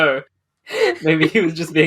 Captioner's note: laughs